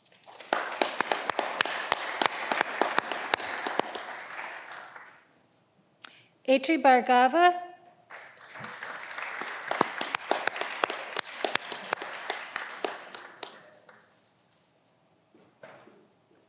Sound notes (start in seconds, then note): 8.1 audience clapping